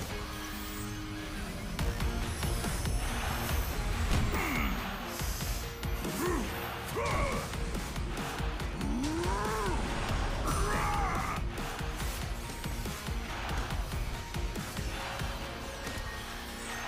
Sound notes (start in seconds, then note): 3.5 grunting; 8.9 roaring